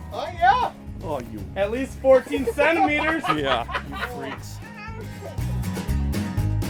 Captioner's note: laughing